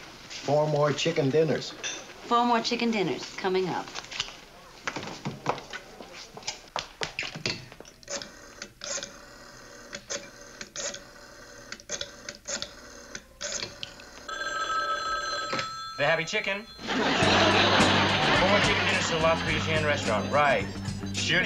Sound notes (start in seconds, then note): 14.9 phone ringing